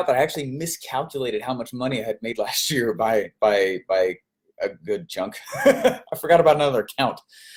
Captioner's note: laughs